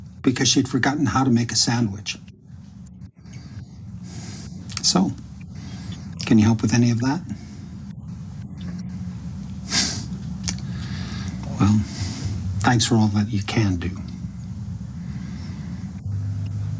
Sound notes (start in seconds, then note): 10.5 sighs